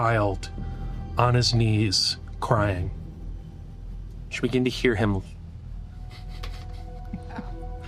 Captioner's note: laughing